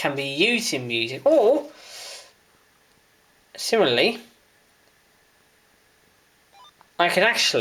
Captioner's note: beep from uniden ubc75xlt